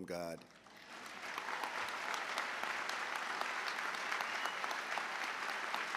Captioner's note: applause